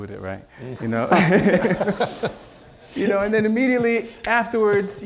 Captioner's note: audience laughing